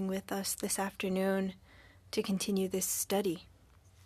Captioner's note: speaking French